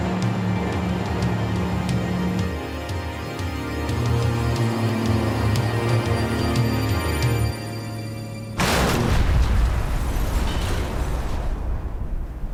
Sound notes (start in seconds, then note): 0.0 airplane engine roaring; 4.2 sinister music; 8.6 engine exploding